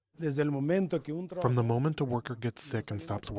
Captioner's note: through translator